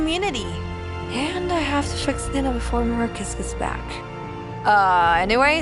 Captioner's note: whispering